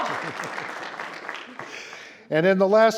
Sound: chuckles

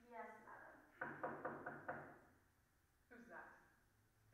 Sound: strident knocking

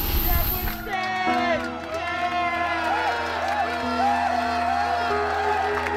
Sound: clapping and cheering

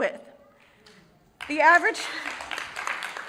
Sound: applause

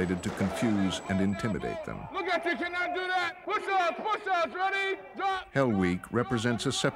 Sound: yelling and guns firing

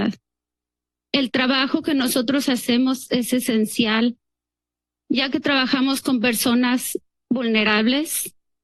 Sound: speaks in Spanish

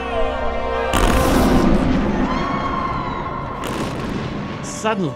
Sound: shouting

